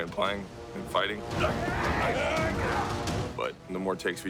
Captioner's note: grunting